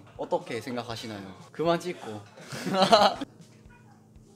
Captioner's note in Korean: 웃음